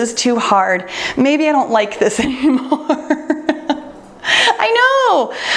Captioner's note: laughs